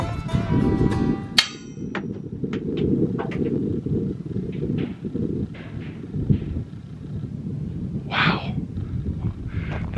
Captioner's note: clinking and banging